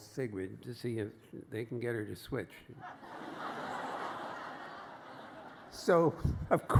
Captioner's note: laughter